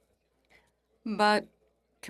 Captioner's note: speaking French